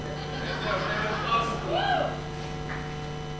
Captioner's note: woman squeals